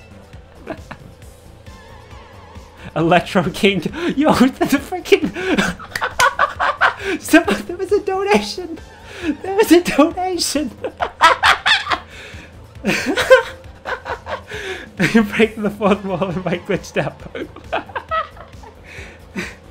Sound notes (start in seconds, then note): 5.4 sentence cut off by laughter; 10.7 hysterical laughter continues